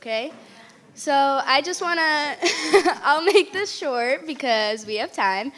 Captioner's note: laughs